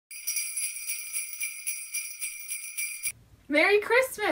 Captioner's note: bells jingling